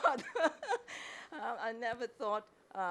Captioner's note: chuckles